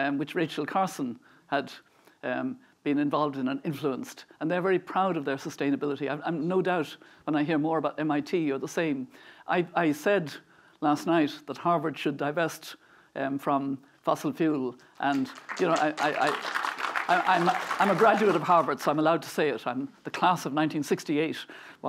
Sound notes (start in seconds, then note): 15.0 applause